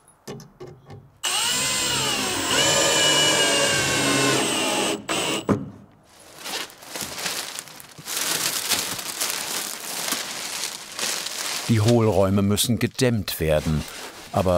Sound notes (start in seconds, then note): 6.2 rustling